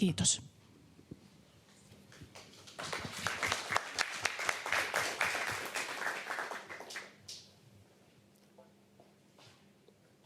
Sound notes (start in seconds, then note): 2.3 applause